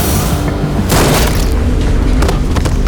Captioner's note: gun firing; body hitting floor